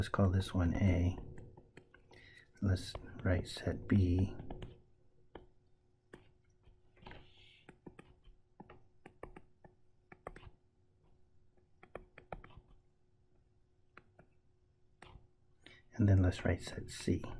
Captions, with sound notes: Let's call this one A, and this, right, set B. [ Tapping Sounds ] And then let's write set C.